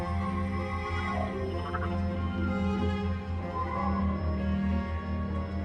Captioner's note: computer churring